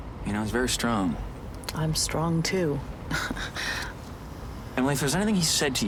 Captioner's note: laughs